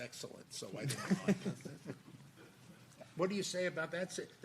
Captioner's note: people laughing